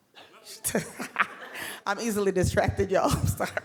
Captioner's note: laughs